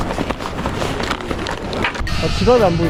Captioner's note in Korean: 뒤적뒤적